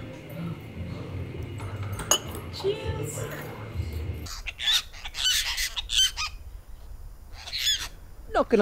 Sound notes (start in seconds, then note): 1.3 cups clink; 4.8 birds chirping